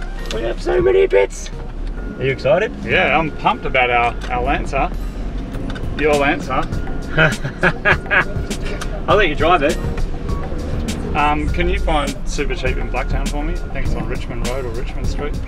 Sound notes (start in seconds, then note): 7.0 chuckles